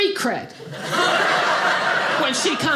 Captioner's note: audience laughing